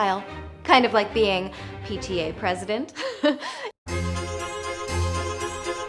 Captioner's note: giggle; fast paced violin music